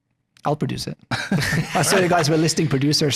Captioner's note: all laughing